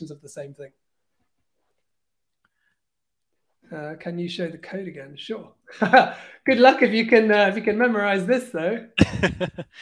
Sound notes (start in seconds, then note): 5.7 laughs